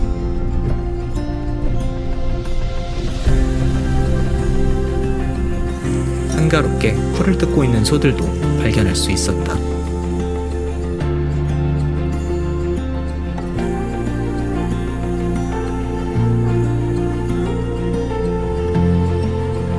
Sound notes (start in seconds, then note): 3.8 awww